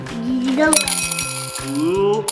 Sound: candies jingling

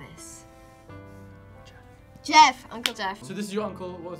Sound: whispers

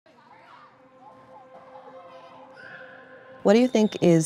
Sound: children laugh and chatter; uplifting music

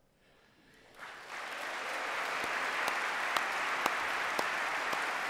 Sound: cheers, applause

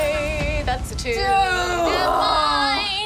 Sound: groans

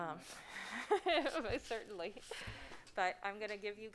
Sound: laughing

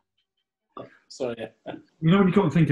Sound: laughing

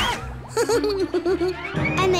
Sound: giggling

